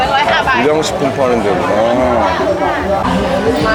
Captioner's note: laughing